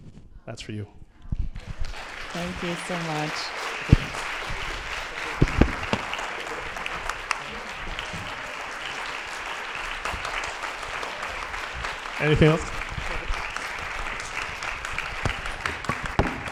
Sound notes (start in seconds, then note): 1.2 applause; 3.7 applause; 12.9 applause